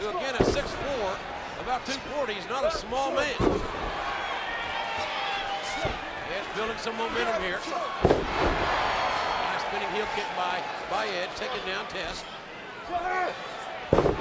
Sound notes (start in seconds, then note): 7.9 bodies thud